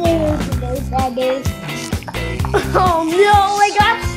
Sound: babbling

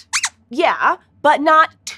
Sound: squeaks squeaks

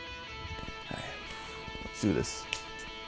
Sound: sigh

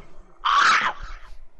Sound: screams of pain

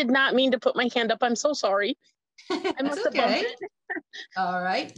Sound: laughs

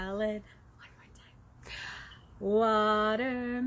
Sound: whispers

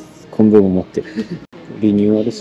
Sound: laughs

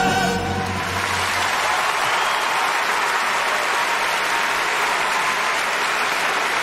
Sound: applause

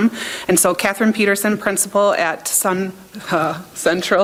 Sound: chuckles

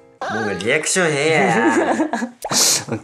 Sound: laughing

